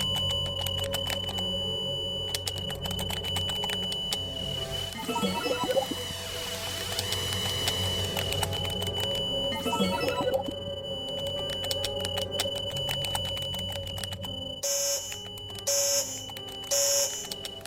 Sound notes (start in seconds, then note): 0.0 keys typing; 0.0 tense music; 9.4 electronic warbling; 14.8 buzzer buzzing